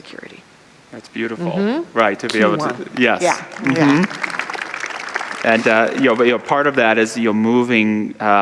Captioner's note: audience applause